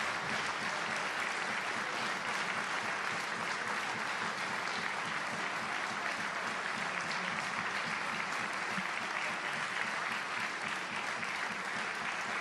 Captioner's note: applause